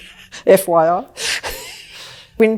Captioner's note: both laugh; laughs